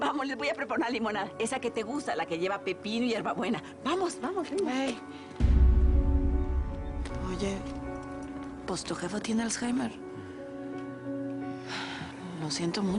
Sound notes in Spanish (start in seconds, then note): none